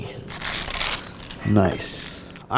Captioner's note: paper crinkling